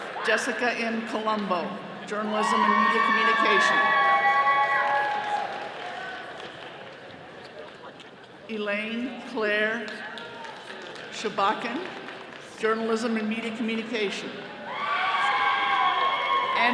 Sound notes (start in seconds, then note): 0.0 all cheering; 4.0 all cheering; 14.6 all cheering